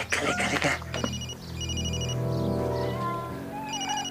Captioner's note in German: Handy klingelt